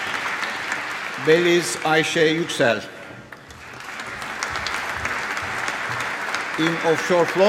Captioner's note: applause